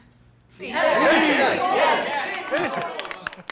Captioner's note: crowd